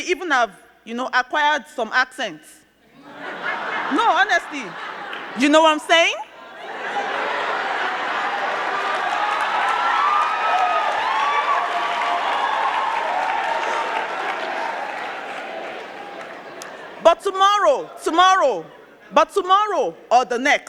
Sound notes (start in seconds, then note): 2.3 crowd laughing; 9.0 crowd clapping